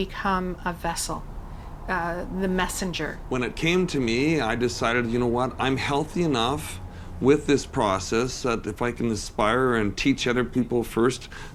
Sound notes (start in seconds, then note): none